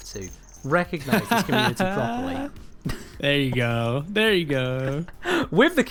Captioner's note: laughs